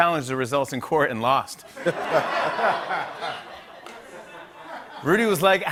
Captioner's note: laughter